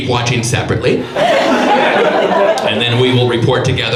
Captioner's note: audience laughs